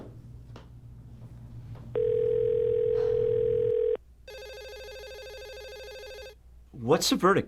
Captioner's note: phone ringing